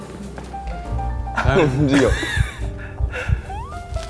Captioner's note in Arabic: الضحكة تخرج فقط بالنظر لبعضهما